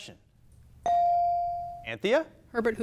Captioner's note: bell dings